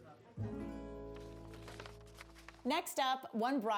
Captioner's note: paper crinkles